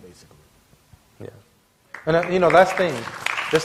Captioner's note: applause